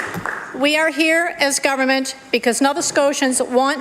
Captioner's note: applause